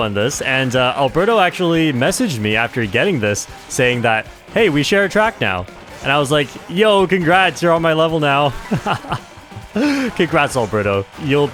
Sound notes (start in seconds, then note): 8.4 laughs